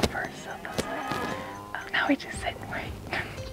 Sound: cows mooing

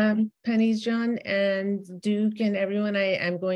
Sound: speaks in Dari

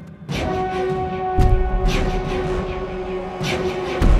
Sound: thudding footsteps

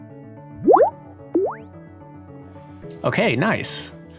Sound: upbeat music; computer beeps

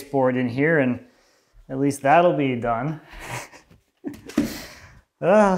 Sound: laughs

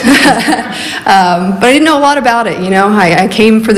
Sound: laughs

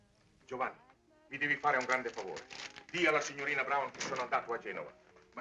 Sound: Italian spoken audio

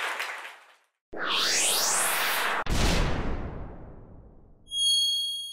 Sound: electronic wooshing

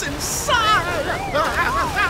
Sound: yelping

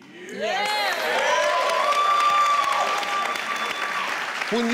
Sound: audience cheering

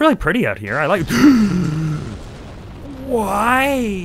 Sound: explosion

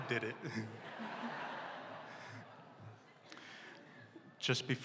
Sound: laughter

